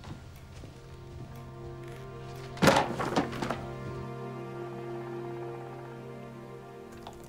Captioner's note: light dramatic music; book thuds; keyboard clicking